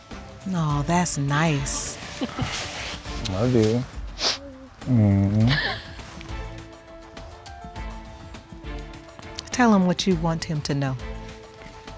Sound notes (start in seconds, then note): 5.0 chuckles